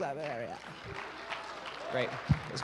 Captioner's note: applause